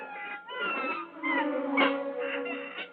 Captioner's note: bird squawking